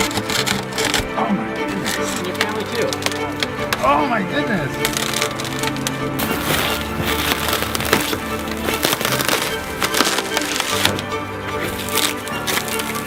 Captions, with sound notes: Oh my goodness. (windshield crunching) (windshield crackling) (dramatic music playing)